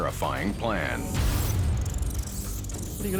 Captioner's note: rat squeaking